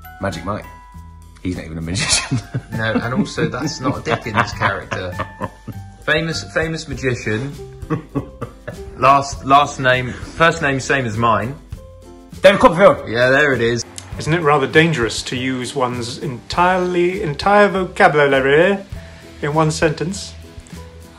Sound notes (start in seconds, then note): 2.0 laughs